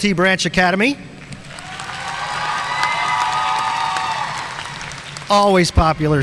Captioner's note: audience cheering and applauding